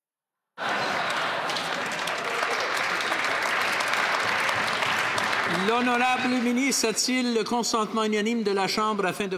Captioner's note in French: voix de l'interprète; applaudissements